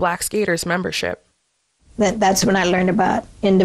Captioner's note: soundbite of archived recording